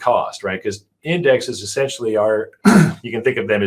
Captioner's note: clears throat